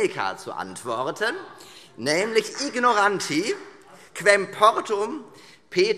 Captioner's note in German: Beifall - Zurufe